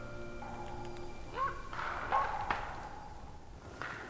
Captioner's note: animal yelps